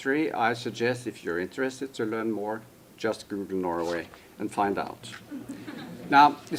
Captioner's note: laughter